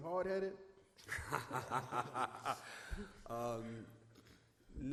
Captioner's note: laughs